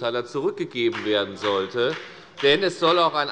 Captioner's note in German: Beifall bei der FDP